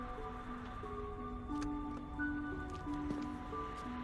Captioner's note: traffic hums